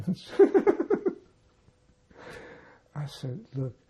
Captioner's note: laughing